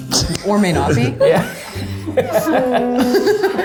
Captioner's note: laughter